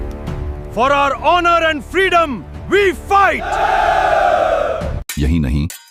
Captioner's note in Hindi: हौसला बढ़ाने की आवाज़